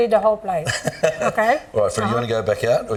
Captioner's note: giggling